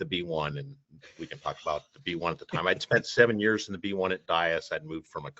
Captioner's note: chuckles